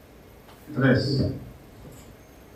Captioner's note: documentary voice